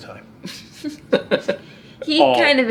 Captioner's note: dad laughing